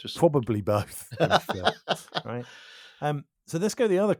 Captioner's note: laughs